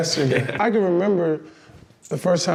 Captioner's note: chuckles